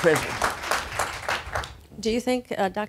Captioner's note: applause